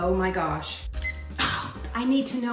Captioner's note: timer beeping